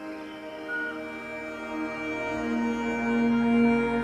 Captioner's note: birds chirping